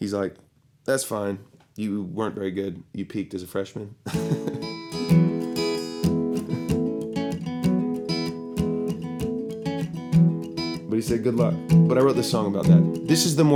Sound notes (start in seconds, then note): 5.9 chuckles and strums